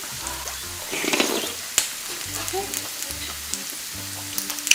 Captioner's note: slurp